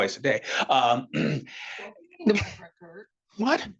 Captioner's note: attendee speaking softly